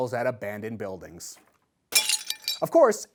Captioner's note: bottle breaks